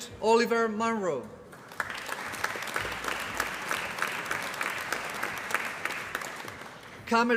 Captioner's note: applause